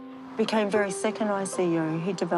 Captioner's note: none